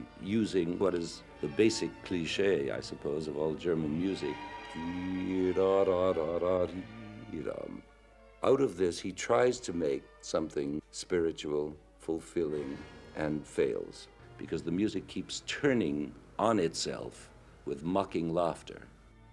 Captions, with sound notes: using what is the basic cliche, I suppose, of all German music. (humming to melody) Out of this, he tries to make something spiritual fulfilling and fails because the music keeps turning on itself with mocking laughter.